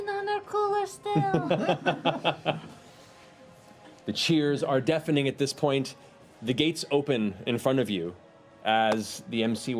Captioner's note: chuckles